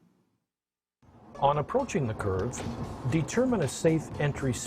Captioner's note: voiceover